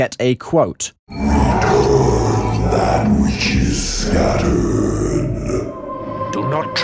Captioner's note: demon voice